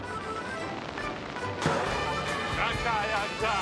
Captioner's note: boing; speaking foreign language